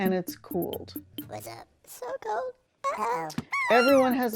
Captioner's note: screaming